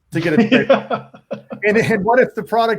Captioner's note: laughs